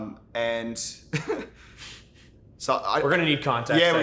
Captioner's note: laughs